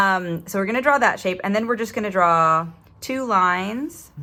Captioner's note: none